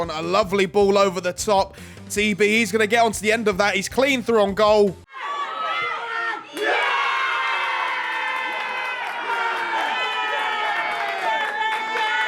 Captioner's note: applause